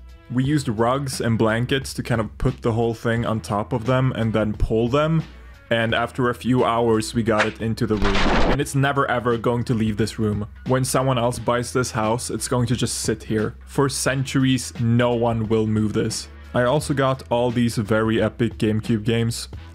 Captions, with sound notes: We used rugs and blankets to kind of put the whole thing on top of them and then pull them? And after a few hours we got it into the room. [Swish and explosion] It's never ever going to leave this room. When someone else buys this house, it's going to just sit here. For centuries, no one will move this. I also got all these very epic GameCube games: